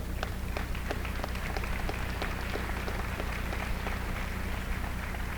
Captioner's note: applause